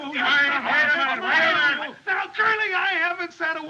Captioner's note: both Shouting